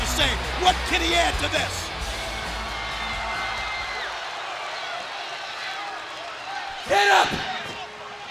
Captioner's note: crowd cheering